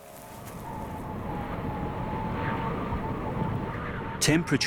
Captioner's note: wind howls